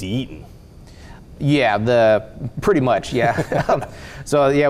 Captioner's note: chuckling